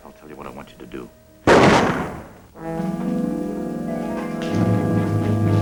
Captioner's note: gun shot